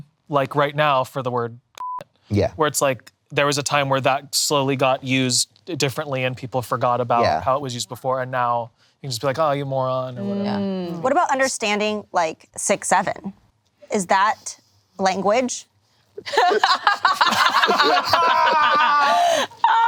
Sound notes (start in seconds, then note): 1.8 beep; 16.2 group laughing